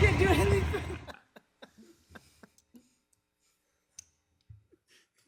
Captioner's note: man laughing